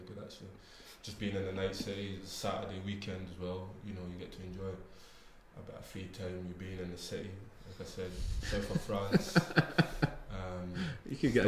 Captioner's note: group laughs